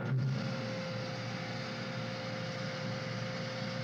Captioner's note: factory humming